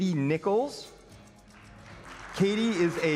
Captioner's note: applause